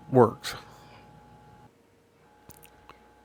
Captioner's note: silence